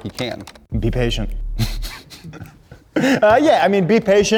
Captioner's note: laughing